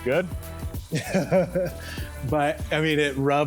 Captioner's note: laughing